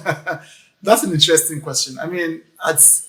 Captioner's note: laughs